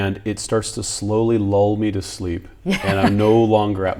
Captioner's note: laughs